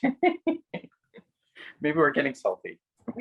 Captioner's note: laughing